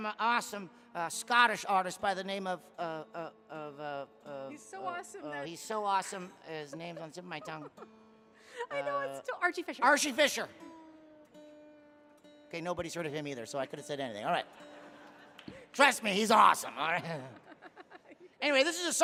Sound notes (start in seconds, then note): 9.9 guitar tuning; 14.5 audience laughing; 15.9 laughing